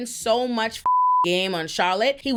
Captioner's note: beep